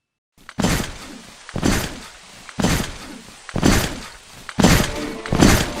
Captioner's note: footsteps